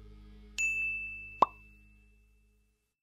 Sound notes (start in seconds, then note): 0.6 dinging; 1.0 popping